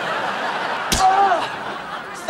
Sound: yelling

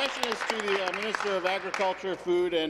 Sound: applause

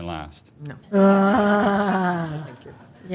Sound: laughter

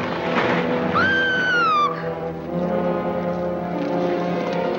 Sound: dramatic music; Alicia screams; suspenseful music

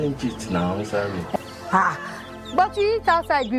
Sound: speaking in foreign language

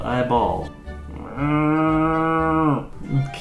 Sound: mooing

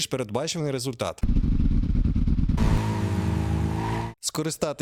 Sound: engine sound

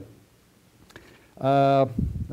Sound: pause

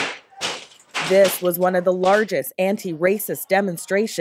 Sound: banging

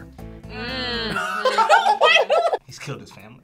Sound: laugh

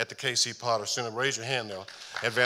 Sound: audience applauding

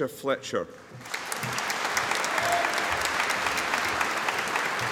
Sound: audience applauding

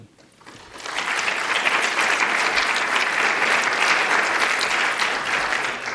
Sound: applause

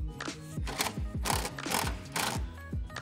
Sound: driller grinding; bright upbeat music

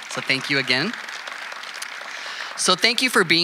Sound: audience applauding

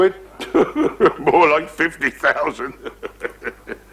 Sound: laughs

